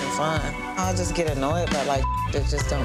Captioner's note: beep